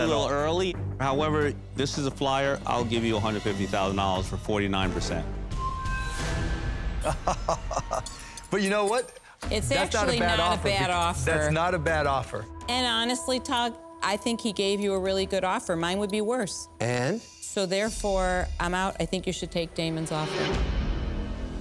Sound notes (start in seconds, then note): 7.0 chuckles